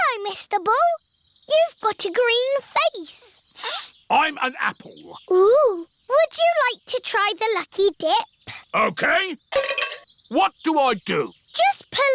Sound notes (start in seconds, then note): 3.6 sniffs